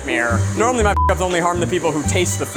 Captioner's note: beep